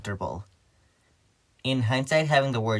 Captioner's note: beat